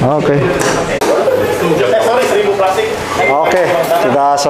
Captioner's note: distant chattering